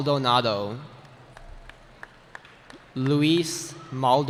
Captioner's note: cheering